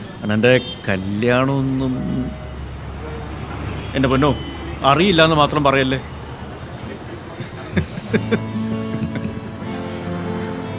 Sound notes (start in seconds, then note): 7.0 both laugh